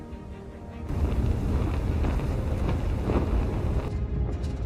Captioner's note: distant wind noise; louder wind noise; muffled wind heard from inside vehicle